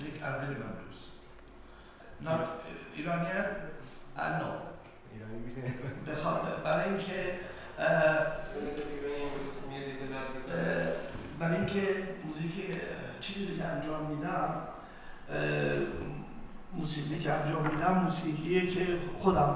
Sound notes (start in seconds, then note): 5.1 speaking in farsi; 11.5 speaking in farsi